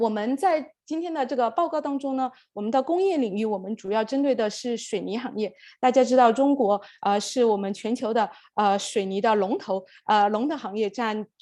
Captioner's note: speaking Mandarin